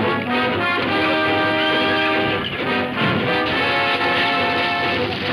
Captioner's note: horse whinnying